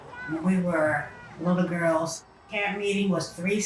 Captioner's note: children playing